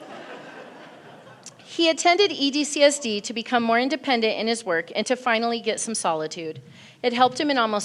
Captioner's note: laughter